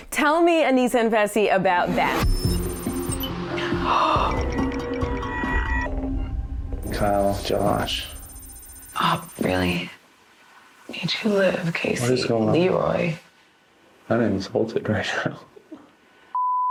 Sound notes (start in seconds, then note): 1.8 electronic music playing; 3.7 gasping; 16.4 beep